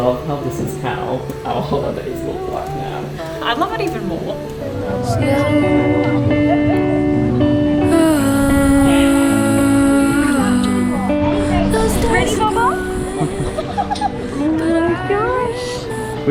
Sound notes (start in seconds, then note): 5.3 group chattering; 6.6 soft music